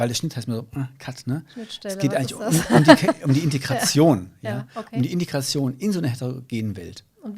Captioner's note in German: lacht